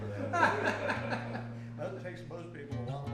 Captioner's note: group laughs